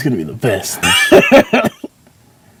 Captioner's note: laughs like there is no tomorrow